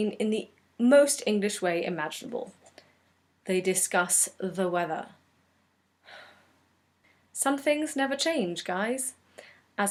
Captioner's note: sigh